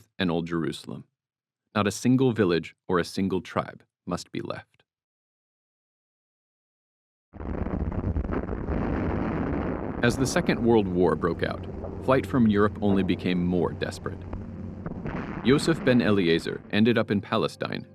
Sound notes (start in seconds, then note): 7.3 tanks firing